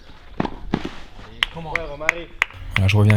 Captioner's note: foreign Language